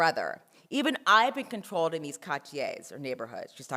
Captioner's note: french